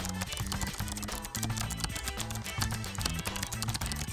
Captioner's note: key clacking